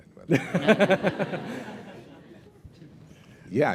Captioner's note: laughter